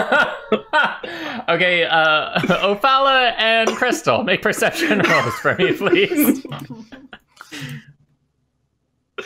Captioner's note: laughter; typing noises